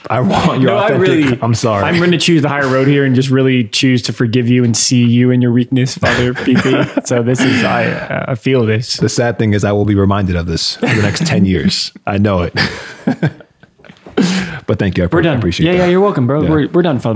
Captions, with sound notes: I want your authentic, I'm sorry. - I'm going to choose the higher road here and just really choose to forgive you and see you in your weakness, Father PT. So this is, I feel this. - The sad thing is I will be reminded of this for the next 10 years. I know it. (laughing) But thank you, I appreciate it. - You're welcome, Bro.